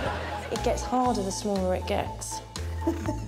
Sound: audience laughing; upbeat music; laughs

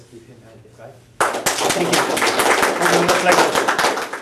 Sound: applause

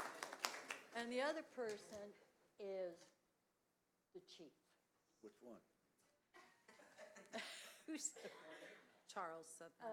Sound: applause

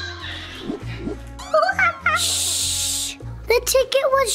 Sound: Adley shushing; monkey screeching

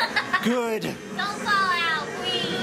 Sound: laughing

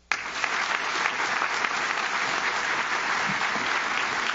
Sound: audience claps

